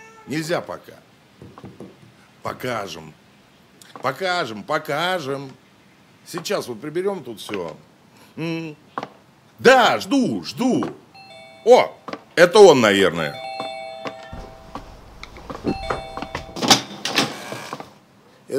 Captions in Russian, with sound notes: - Нельзя пока. - Покажем. - Покажем, покажем. - Сейчас вот приберем тут все.. - Угу. - Да, жду, жду! [Звонок в дверь] - О! - Это он, наверное. [Звонок в дверь. Кошачье мяуканье за кадром ]